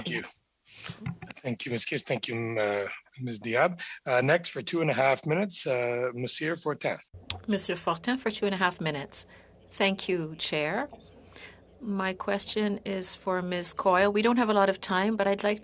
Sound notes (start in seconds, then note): 11.8 speaking French